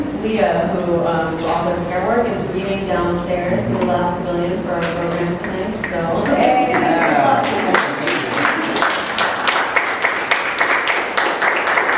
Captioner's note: ohh yeahh, *snaps and applause* from audience